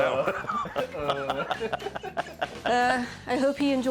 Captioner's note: both laugh